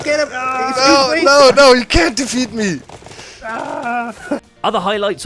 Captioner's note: faking panic